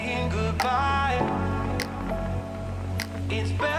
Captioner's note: wind blowing